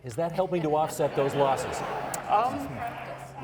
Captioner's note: audience members laughing